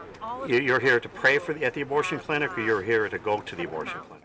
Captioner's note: voiceover